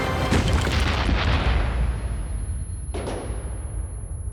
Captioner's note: high-pitched ringing